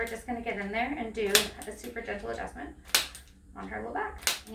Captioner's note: tool clicks; tool clicks